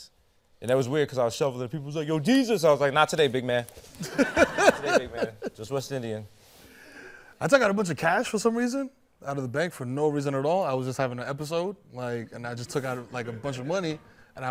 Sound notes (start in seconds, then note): 4.0 laughter